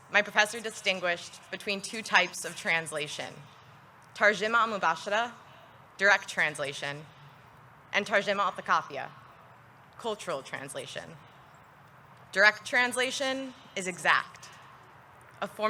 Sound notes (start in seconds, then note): 4.3 speaks in foreign language